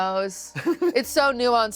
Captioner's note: laughs